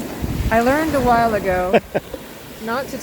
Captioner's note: laughs